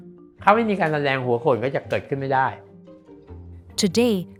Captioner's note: speaking foreign language